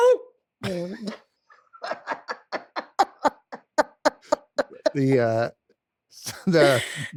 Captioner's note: both laugh